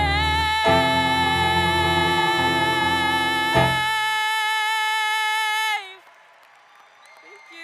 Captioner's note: cheering and screaming